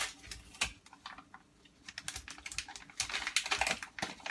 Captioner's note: paper crinkling